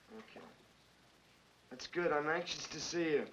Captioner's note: none